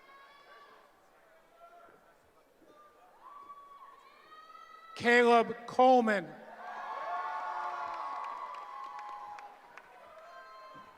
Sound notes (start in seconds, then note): 6.5 cheering